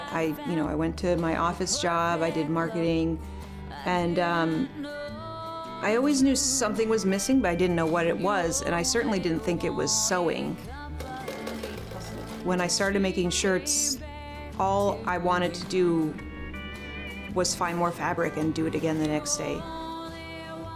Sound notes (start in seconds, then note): 11.0 sewing machine clicking